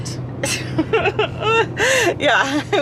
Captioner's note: laughs nervously